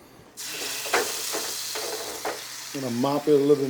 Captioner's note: tray slides atop stove; ribs sizzle